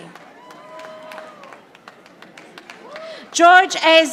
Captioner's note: audience applauding